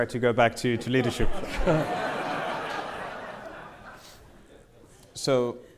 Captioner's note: audience laughing